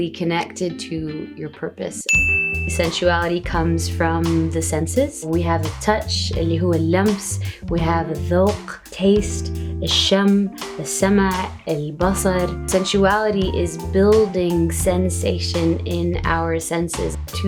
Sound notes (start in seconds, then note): 6.3 speaks in foreign language